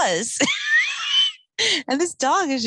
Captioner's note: laughing